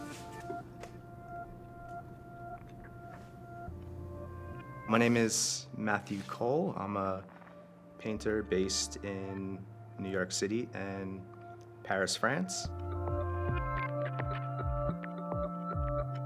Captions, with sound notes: (paint brush strokes) My name is Matthew Cole. I'm a painter based in New York City and Paris, France. (gentle music)